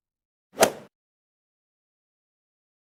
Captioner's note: swoosh